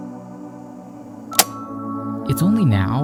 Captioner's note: recorder clicks